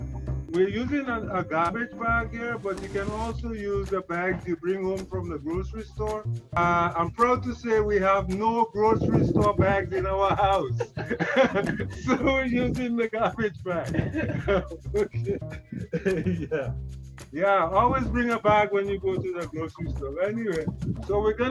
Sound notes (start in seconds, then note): 9.4 laughs